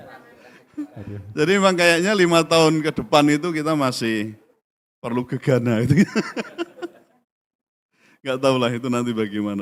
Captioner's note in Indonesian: tertawa; tertawa